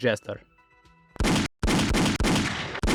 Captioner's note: first blast; third blast